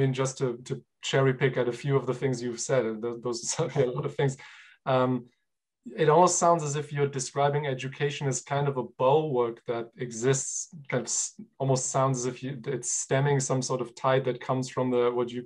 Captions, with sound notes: just to cherry pick out a few of the things you've said those were certainly a lot of things (laughs). It almost sounds as if you're describing education as kind of a bulwark that exists. That's almost sounds as if it's stemming some sort of tide that comes from what you call,